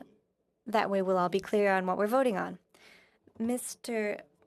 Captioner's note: speaking french